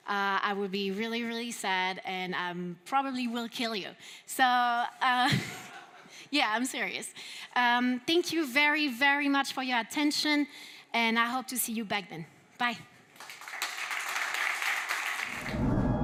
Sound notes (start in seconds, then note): 5.2 laughter; 13.1 applause